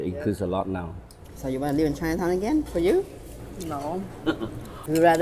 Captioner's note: laughs